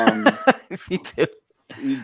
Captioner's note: laughs